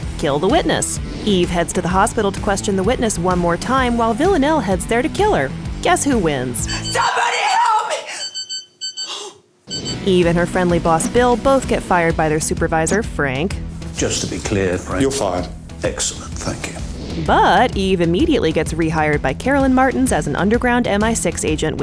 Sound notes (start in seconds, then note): 8.2 beeping; 9.0 gasps